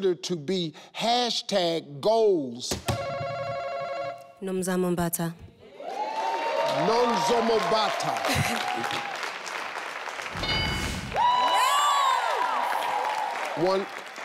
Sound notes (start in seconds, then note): 2.9 buzzer beeps; 5.7 audience cheers; 10.4 bell dings; 11.0 audience cheers